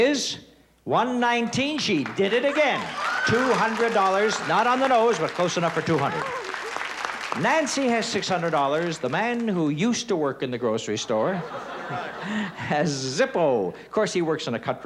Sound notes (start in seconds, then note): 2.6 cheering and applause